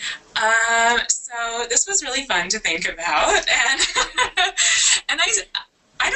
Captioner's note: laughs